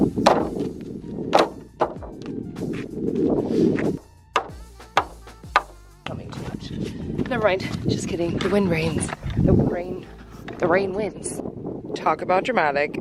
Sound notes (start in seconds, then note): 1.3 wood thuds; 3.2 wind blowing; 4.3 hammer pounding